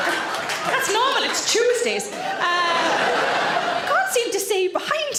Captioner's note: audience laughing